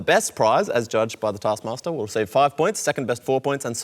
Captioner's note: none